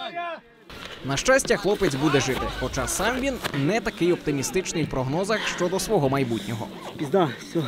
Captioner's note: voiceover